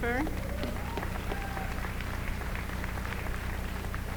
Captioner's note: applause